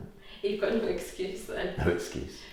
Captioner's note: laughs